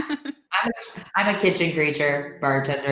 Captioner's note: laughs